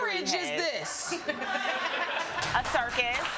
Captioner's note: audience laughing